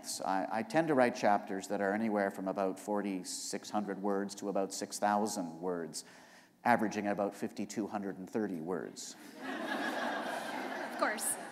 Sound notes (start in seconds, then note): 9.2 laughter